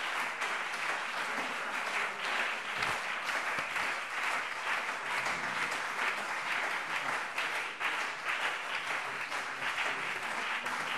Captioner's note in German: Anhaltender Beifall BÜNDNIS 90/DIE GRÜNEN und CDU